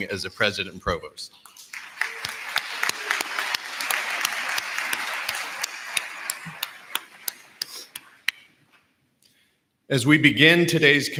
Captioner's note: applause